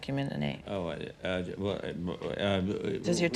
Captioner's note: stammering